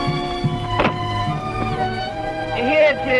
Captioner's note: hatch slams; drum beating